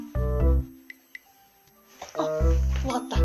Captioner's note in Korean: 벨소리